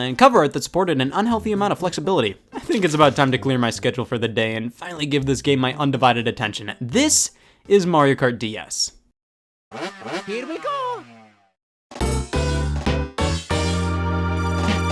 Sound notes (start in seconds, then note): 9.8 car revving; 12.0 upbeat music